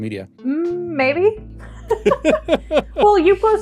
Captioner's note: laughs